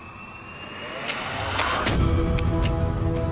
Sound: gun clicking

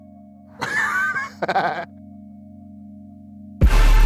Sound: laughing

